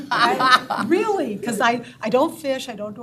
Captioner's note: all laughing